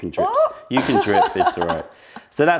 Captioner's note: laughter